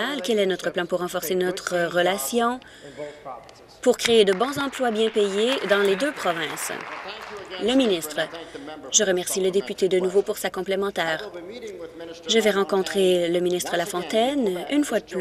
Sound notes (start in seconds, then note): 7.6 applause